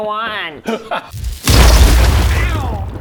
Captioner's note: boooomm!!!!